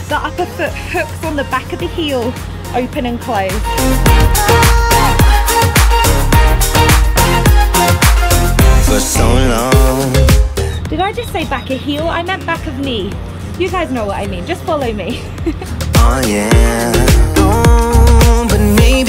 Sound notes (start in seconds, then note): 4.1 upbeat music; 14.8 woman laughs